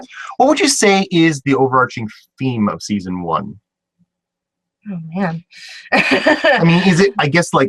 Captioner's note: laugh